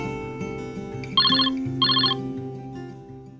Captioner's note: ringing